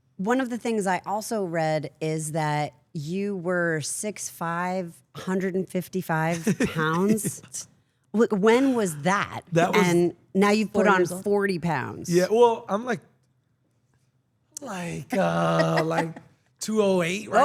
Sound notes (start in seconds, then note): 6.4 laugh